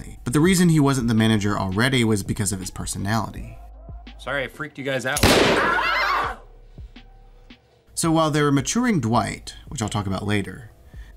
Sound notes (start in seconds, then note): 5.2 gunshot